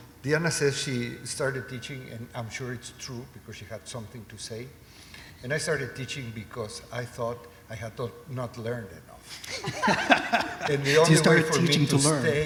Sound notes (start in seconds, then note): 9.3 laughter